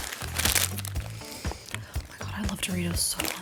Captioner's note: sniffs